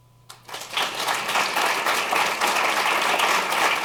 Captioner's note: applause